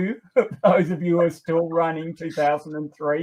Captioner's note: laughter